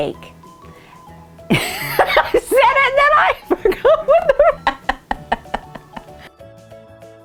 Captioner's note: laughing